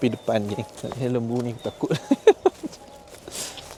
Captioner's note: laugh